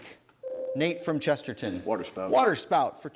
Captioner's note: ding